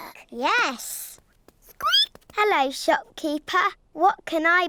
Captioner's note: squeaks